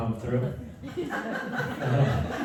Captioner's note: laughter